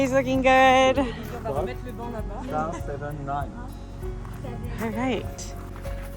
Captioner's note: family speaking french